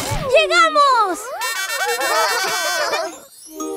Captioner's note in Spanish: Sonido de bocina; Risas